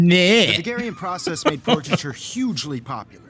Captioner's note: laughs